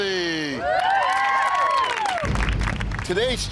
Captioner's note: group cheers